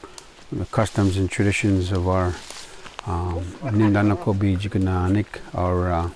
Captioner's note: non-english speech